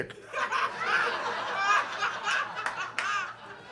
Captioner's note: audience laughs